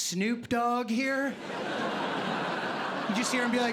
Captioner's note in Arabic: ضحك